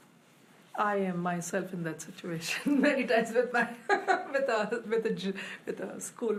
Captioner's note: laughs